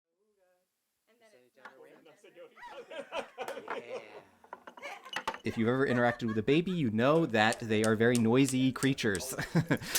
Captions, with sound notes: [laughing] If you've ever interacted with a baby, you know that they are very noisy creatures